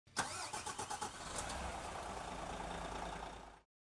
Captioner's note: car engine revs